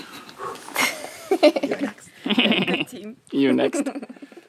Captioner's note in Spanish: la risa